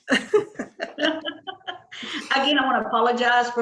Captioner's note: laughs; mayor laughs